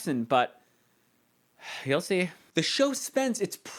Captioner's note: sighs